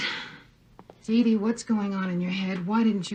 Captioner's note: on TV